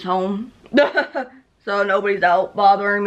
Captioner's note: laughs